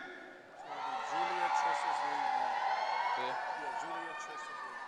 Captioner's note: audience cheering